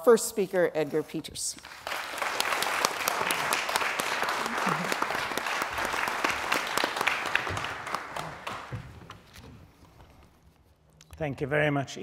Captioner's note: applause